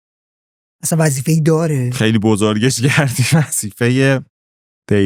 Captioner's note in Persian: خنده